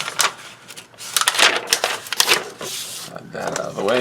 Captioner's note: paper crinkling